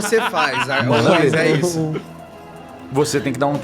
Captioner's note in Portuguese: Risadas